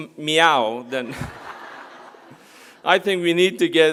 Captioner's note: applause; laugh